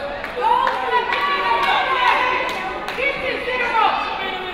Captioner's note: crowd chatter